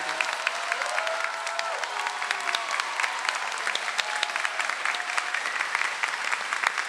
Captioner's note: audience applauds